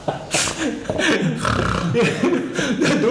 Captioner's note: snoring